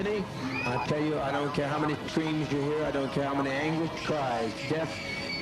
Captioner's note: children screaming